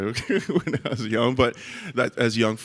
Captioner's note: laughs